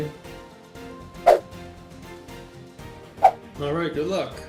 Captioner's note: fast whooshing sound